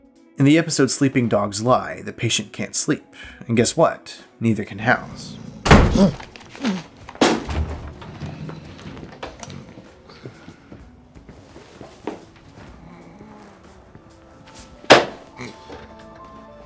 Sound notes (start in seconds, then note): 5.6 door slams